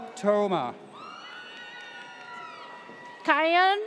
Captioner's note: audience cheers